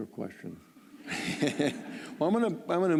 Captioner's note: laughter